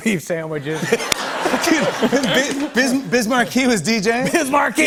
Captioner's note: laughter